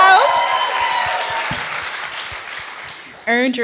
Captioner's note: cheers